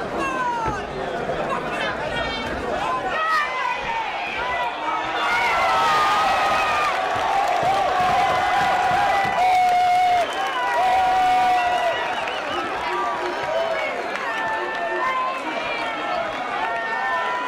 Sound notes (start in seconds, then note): 3.1 crowd cheering; 5.5 crowd screaming and clapping